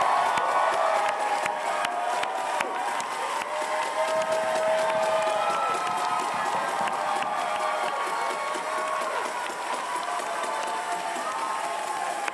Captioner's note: cheers and applause